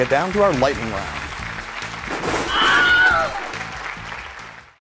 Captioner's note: applause